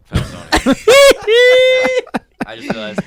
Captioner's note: laughing